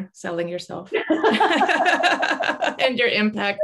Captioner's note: laughter